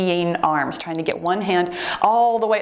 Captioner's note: timer beeps